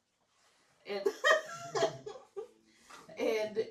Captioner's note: laughter